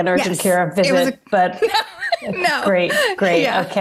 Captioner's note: laughs